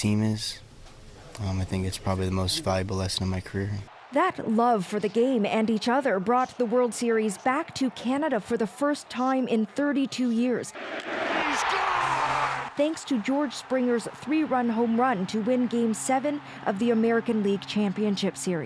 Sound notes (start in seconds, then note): 15.4 cheers and Applause